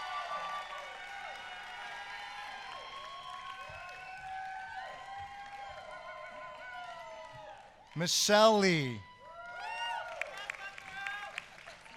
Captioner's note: applause